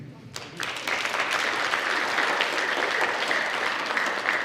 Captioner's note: audience applauds